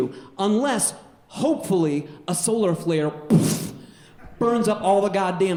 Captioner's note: puffs